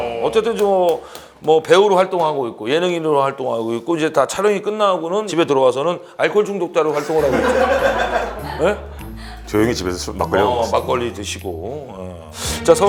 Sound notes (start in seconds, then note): 6.9 bwahahaha